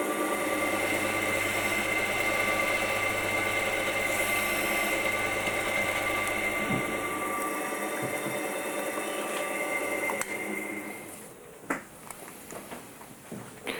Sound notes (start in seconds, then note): 9.4 clicking, roaring stops